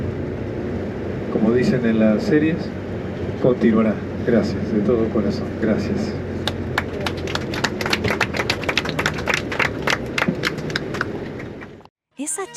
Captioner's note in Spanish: aplausos